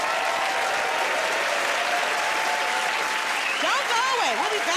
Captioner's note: cheering and applause